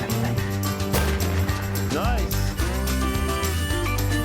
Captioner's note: gunshot cracks